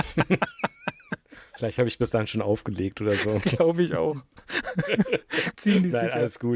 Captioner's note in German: gelächter